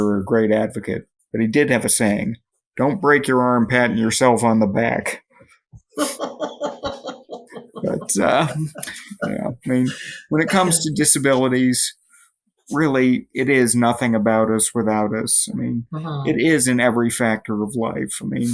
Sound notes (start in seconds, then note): 5.9 chuckles